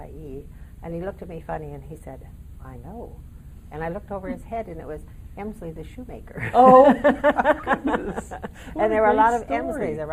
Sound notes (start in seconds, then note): 6.4 laughing